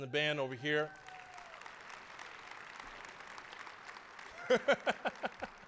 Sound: applause; laughing

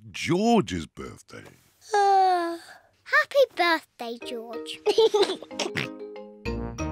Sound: yawns; laughs and oinks

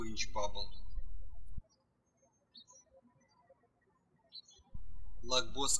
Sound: birds chirping

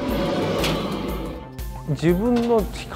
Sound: roaring

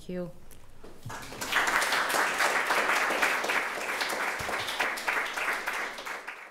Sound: applause

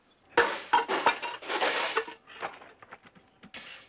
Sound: junk clanging

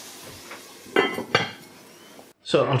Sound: clonk

